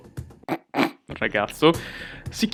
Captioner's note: sarcasm